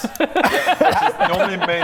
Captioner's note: observant laughter